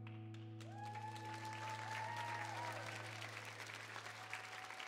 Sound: audience cheering

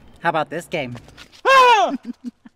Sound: screams

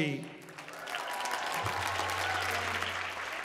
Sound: applause

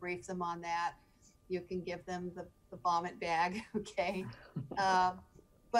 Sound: chuckling

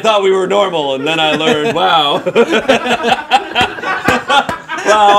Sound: laughs

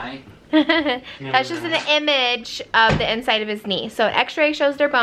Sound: laughs

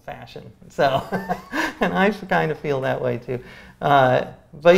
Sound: laughs

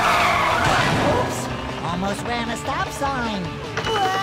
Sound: screeching, thudding

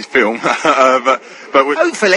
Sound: haHaHa

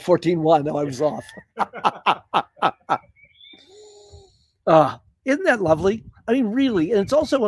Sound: laughter

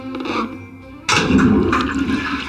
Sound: flushing

